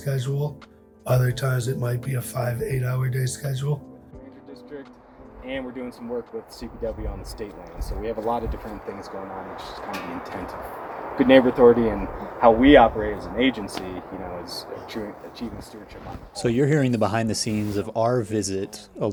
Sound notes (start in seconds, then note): 1.0 ambient outdoor noise, various voices